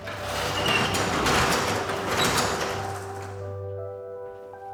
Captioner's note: door scrapes; peaceful music